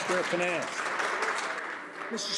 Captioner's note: applause